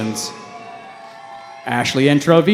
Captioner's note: cheering